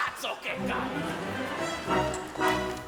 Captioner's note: energetic orchestral music; grumbles in foreign language